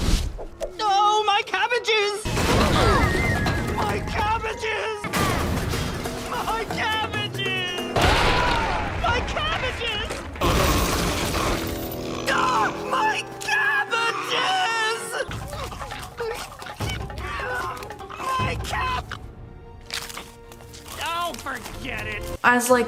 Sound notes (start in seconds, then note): 5.1 crash